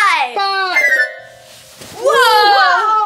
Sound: playful magical sound

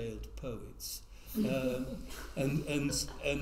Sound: laugh

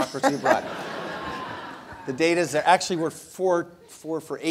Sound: laugh

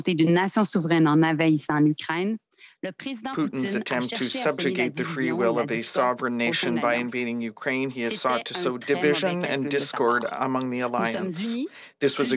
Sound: speaking French

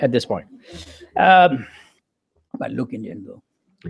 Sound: laugh

